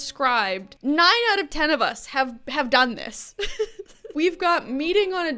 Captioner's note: chuckles